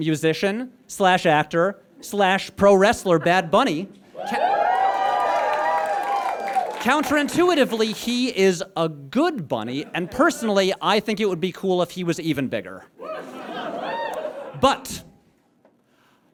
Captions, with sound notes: musician/actor/pro wrestler Bad Bunny? (audience cheers and applauds) Counterintuitively, he is a good bunny, and personally I think it would be cool if he was even bigger. (scattered whoops) But...